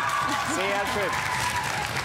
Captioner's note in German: lauter; Jubel